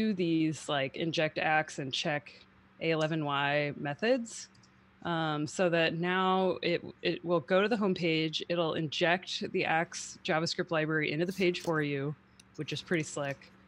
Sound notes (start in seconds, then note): none